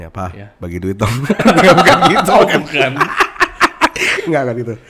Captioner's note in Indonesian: ketawa